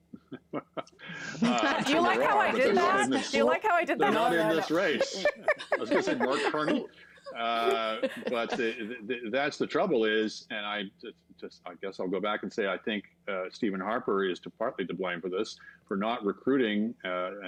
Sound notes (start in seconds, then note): 7.0 laughter